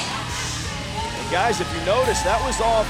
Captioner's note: crowd cheering